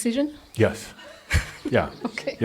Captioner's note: she chuckles